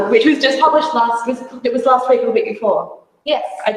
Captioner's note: none